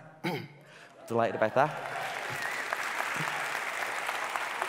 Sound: applauding

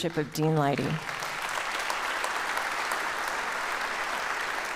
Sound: audience applauds

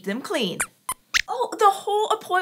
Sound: squeaks squeaks

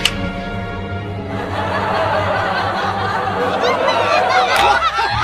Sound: laughter

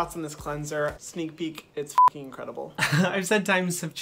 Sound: beeps

